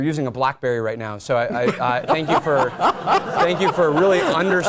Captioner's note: laugh